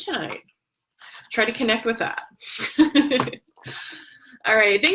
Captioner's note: laughs